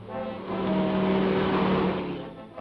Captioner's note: vehicle whooshes